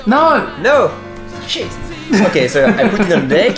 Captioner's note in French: rires